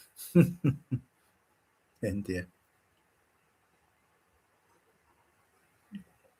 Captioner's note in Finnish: naurua